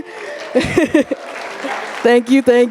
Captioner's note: audience applauding